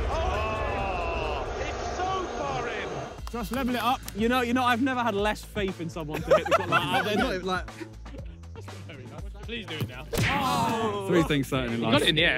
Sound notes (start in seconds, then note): 6.0 players laugh; 10.4 laughs